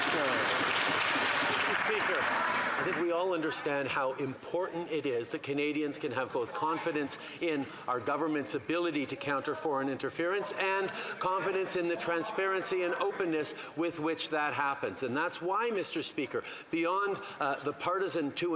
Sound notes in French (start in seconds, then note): 5.7 voix de l'interprète